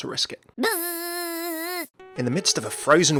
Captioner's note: buzzing